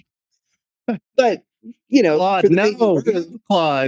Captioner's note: laughing